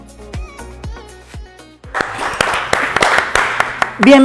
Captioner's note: applause